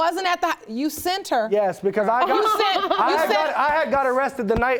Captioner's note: laughing